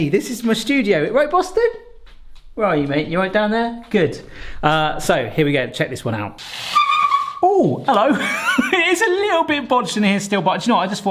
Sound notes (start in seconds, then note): 6.5 tray squealing; 7.9 laughing